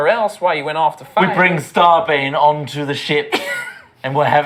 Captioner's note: dramatically